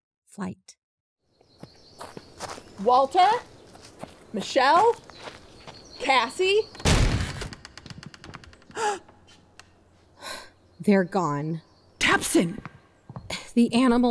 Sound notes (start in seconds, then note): 0.9 outdoor ambience; 1.9 walking quickly in gravel; 6.8 burst barn door open; 7.1 footsteps; 8.7 gasp; 12.8 footsteps in barn